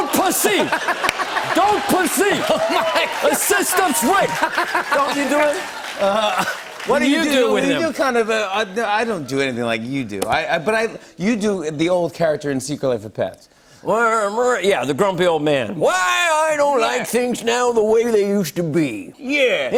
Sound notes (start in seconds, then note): 0.2 laughter and applause; 1.6 laughing; 3.4 laughter and applause